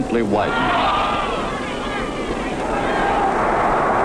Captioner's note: crowd cheering